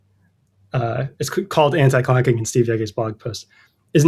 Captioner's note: uh